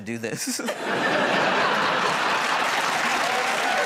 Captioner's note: laughter